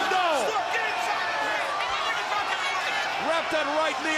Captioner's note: crowd chatter